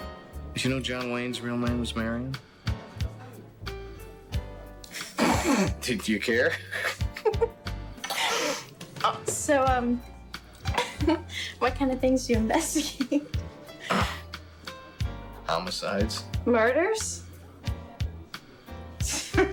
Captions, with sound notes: - Did you know John Wayne's real name was Marion? (jazzy lounge music) (both laughing) Did you care? (both laughing) - So, what kind of things do you investigate? (jazzy lounge music) - Homicides. - Murders? (jazzy lounge music)